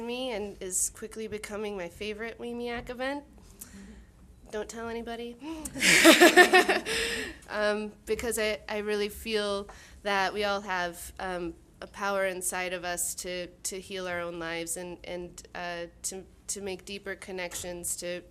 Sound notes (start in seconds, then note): 5.8 audience laughing